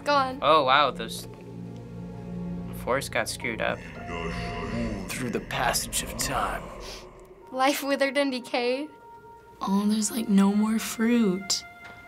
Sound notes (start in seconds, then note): 0.4 bleak music; 3.6 in game: speaking foreign language; 6.2 sniffles; 9.0 somber music